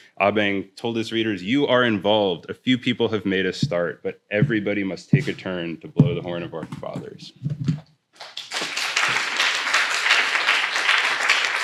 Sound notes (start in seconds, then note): 8.1 applause